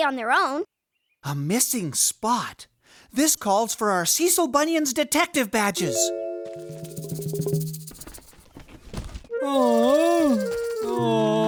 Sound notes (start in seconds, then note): 9.4 moans of worry